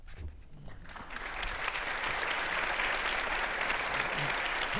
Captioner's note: audience applauding